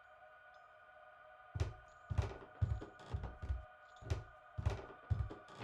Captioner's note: floor squeaking; door clicking